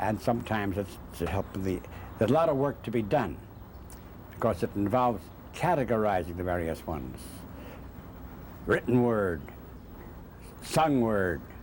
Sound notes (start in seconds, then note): none